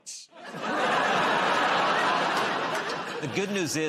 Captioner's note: laughter